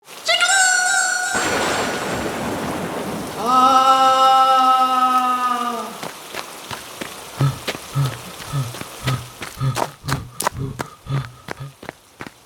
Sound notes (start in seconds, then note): 0.0 jigglypuff screams; 3.4 trainer screams; 7.3 trainer gasps